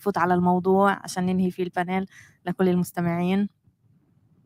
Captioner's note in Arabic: لغة أجنبية